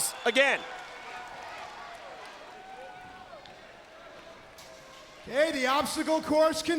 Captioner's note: crowd chatter